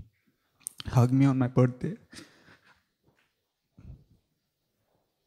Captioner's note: sobbing softly